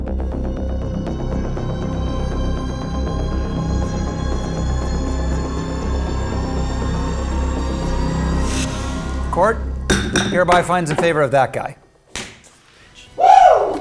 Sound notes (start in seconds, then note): 9.9 gavel banging; 12.2 claps